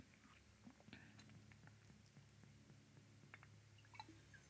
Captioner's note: liquid pours